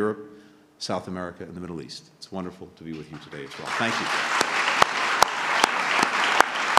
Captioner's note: applause